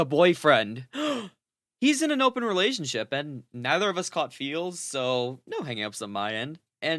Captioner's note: gasp